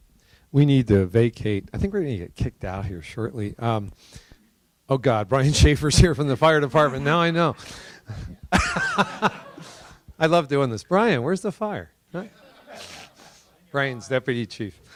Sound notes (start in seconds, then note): 8.3 laughter; 12.2 laughter